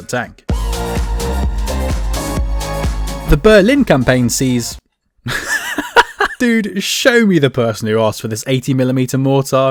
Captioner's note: laugh